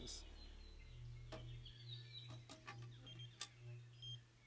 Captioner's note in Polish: delikatne pikanie